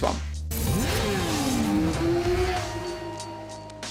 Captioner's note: motorbike roaring